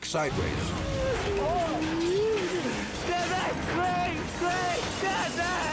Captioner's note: screams indistinctly